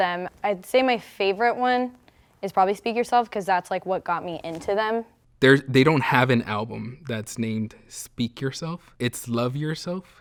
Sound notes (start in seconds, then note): none